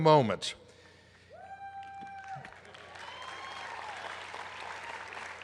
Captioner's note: applause